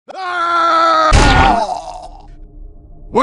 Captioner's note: screams while falling